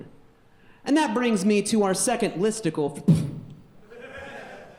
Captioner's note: puffs; audience laughing